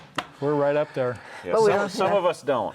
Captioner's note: sighs